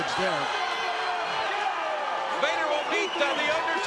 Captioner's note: audience cheers